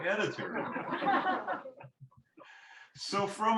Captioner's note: laughter